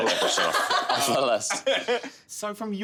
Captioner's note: all laughing